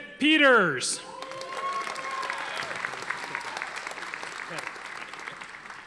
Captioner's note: audience applauding